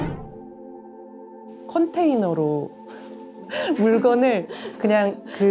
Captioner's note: laughs